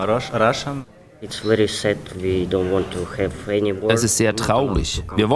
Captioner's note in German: auf Englisch